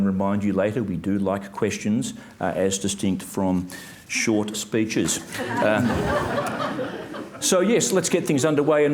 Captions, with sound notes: and remind you later, we do like questions as distinct from short speeches. (audience laughs) So, yes, let's get things underway,